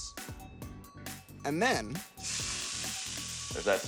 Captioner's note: sizzling